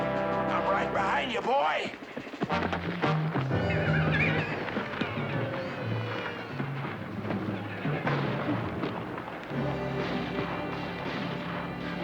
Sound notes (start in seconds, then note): 7.7 gunfire continues